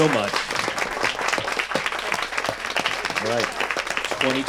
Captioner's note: audience applauds